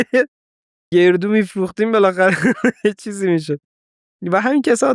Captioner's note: laughs